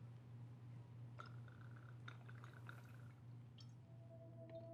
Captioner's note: alcohol sloshing; unsettling music